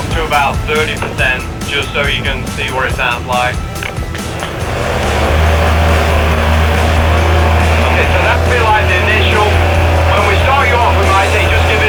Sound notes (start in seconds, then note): 5.1 engine roaring